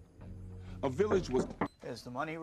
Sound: someone Knocks

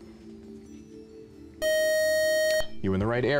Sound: time-is-out buzzer

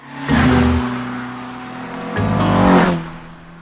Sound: car roaring

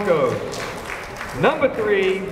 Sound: applause

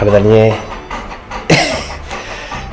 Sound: laughs

